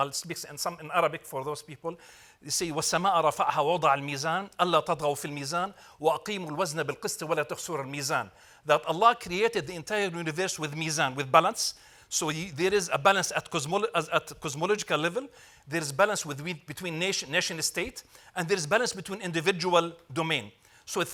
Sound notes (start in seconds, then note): 2.4 speaking Arabic